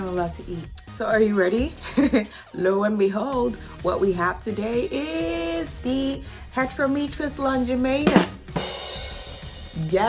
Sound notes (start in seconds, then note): 1.8 chuckles